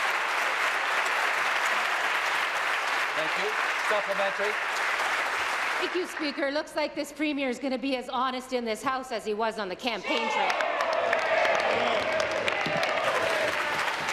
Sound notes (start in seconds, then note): 0.0 applause